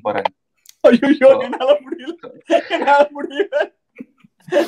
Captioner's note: laughs